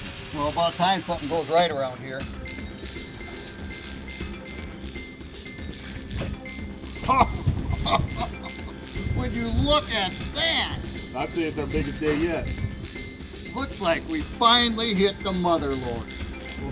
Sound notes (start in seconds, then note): 6.9 laughs